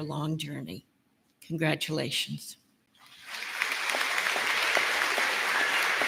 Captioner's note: applause